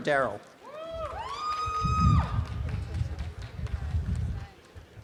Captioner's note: audience applause